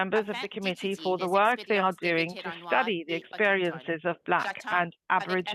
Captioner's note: speaking French